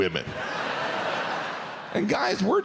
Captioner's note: audience laughs